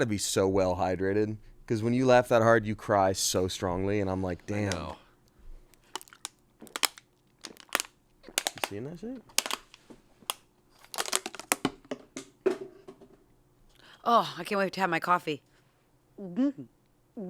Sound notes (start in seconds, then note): 11.2 bottle thuds